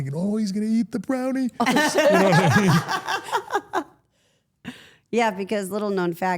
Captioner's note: everyone laughs